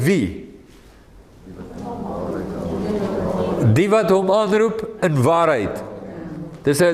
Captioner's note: audience answering